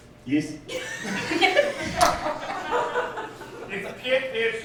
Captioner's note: laughing